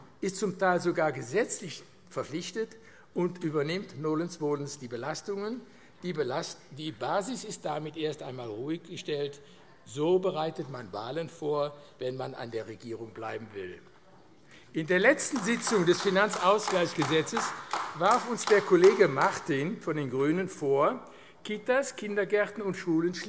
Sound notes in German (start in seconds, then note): 15.1 Beifall AfD